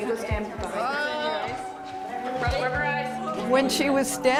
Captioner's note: ^chattering^